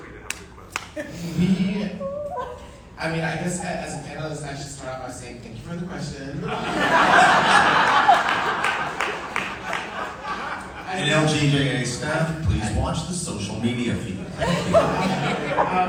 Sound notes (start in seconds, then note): 6.4 audience laughing; 14.2 audience laughing